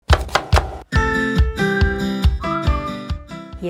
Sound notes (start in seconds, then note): 0.0 knife thudding; 1.4 upbeat music